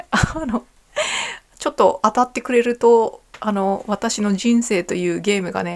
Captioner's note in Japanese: 笑い